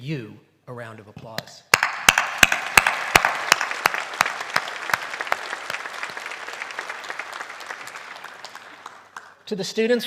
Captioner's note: applause